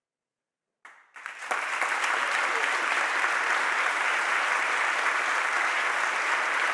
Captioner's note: audience applauds and cheers